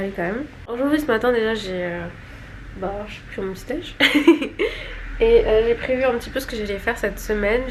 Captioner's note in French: rires